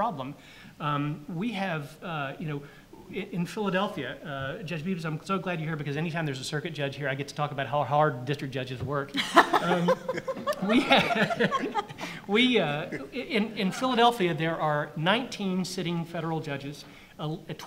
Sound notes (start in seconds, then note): 9.2 audience laughs